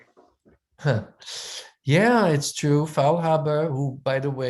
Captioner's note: chuckles